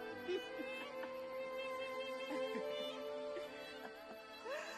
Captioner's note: Ara laughing